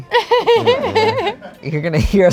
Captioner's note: laughs